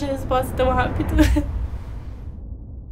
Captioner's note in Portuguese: Risada